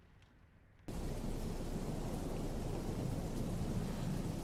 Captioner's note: wind whipping